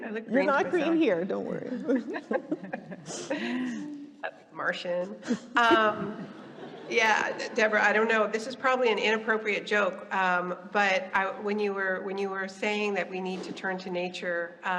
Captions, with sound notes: I look green for myself. - You're not green here, don't worry. (all laughing) - A martian. (audience laughing) Yeah, Deborah, I don't know, this is probably an inappropriate joke, but when you were saying that we need to turn to nature